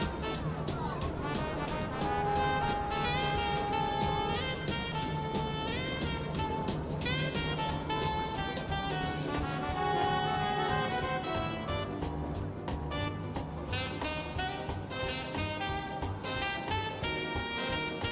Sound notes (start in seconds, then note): 2.1 boat horn wailing; 2.1 cheerful classical music; 9.9 boat horn wailing; 9.9 cheerful classical music